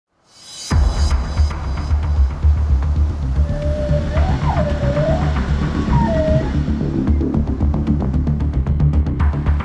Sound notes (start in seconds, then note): 3.3 dolphins whistling